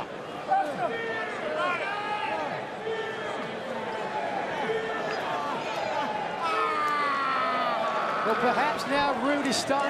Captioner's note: crowd chatter